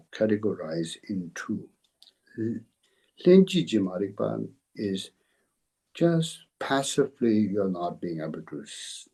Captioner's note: tibetan